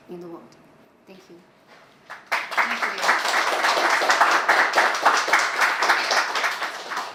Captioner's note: applause